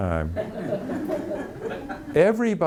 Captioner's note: audience laughing